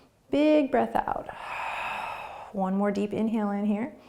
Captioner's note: exhaling